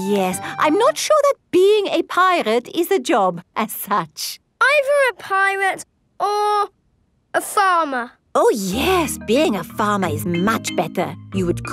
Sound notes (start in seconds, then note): none